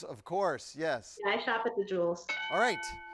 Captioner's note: bell dings